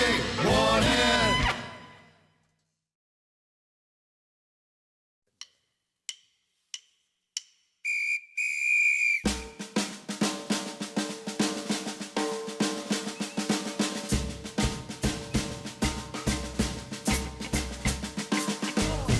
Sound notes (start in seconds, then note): 6.1 drumsticks tapping; 7.8 whistle blowing; 9.2 drums tapping